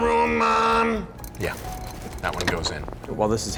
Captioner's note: clanking